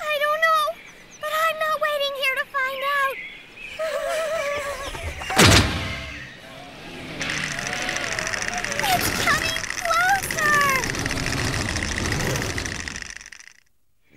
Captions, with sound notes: - I don't know, but I'm not waiting here to find out. (shivering) It's coming closer.